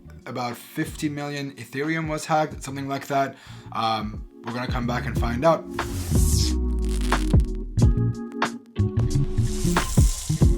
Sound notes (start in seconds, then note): 5.8 electricity crackling; 7.9 chill music